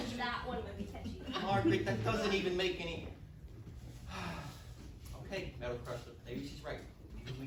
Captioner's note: sigh